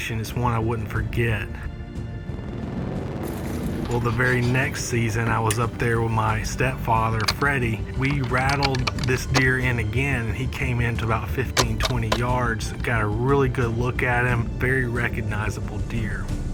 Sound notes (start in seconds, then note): none